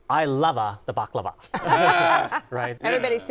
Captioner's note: laughter